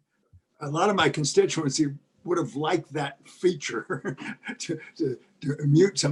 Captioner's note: laugh